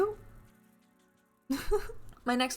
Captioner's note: laughs